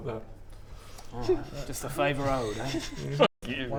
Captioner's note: naughty kids giggling